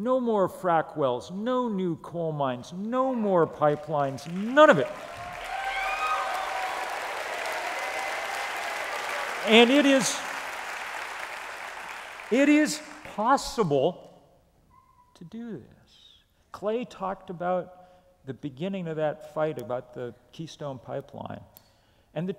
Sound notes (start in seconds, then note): 5.9 applause